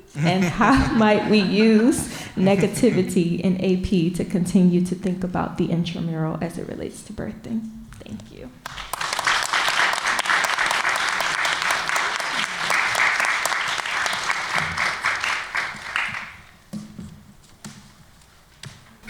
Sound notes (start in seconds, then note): 8.6 applause